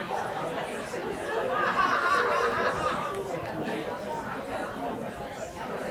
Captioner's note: audience chatter continues